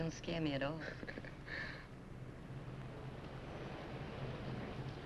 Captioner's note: Harry chuckles